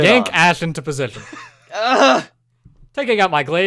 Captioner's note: noise of irritation